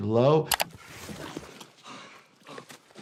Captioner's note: mouse clicking; victim panting